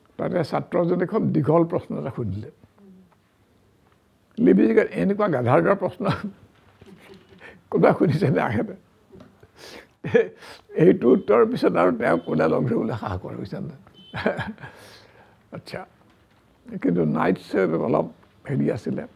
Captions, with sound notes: A student there asked him a very long question. Lewis was like...‘How can anyone ask such a rediculous question?’ [Laughs] After this incident nobody dared to meet him. [Laughs] Knights was not like that.